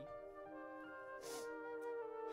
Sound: sniffs

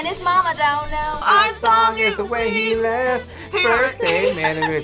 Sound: laughs

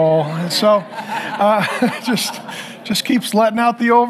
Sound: congregation laughing

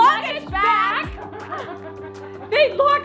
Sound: laughs

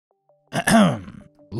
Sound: ahem

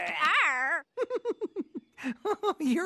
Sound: chuckles

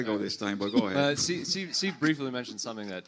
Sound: audience laughs

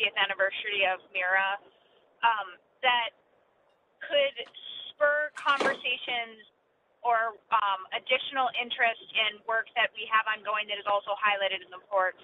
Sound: door opens

